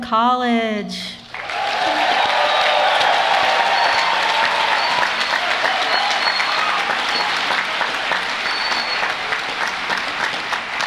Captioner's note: applause